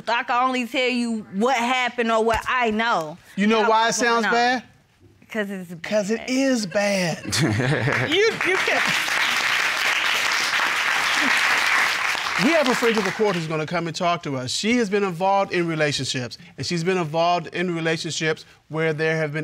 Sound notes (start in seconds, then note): 6.9 laughing